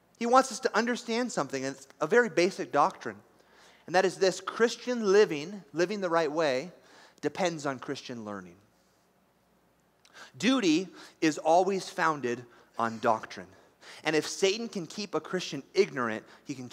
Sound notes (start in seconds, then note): none